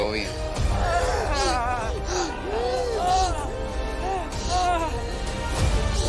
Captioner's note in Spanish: Elizabeth jadea